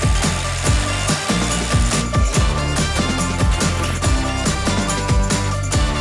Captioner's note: drill rattling